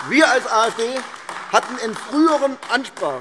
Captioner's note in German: Beifall AfD - Zurufe BÜNDNIS 90/DIE GRÜNEN